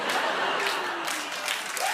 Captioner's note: booing; laughter and applause; cheering and applause